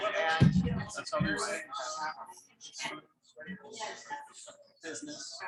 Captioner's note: people chattering indistinctly